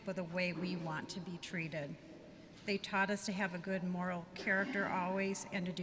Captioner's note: none